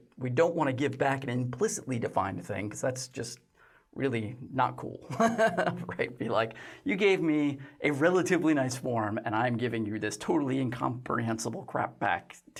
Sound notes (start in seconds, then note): 5.2 laughs